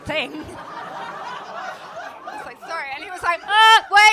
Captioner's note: crowd laughing